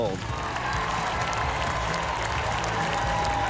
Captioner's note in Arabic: هتاف